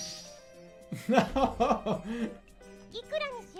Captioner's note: laughing